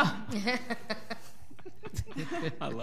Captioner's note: all laughing